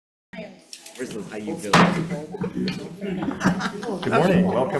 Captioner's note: laughter